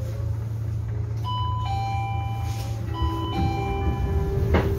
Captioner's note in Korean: 하차벨 소리